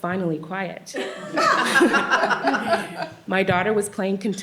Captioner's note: laughter